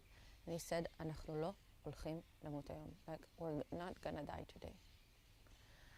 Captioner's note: hebrew; hebrew